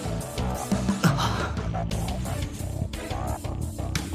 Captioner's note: sigh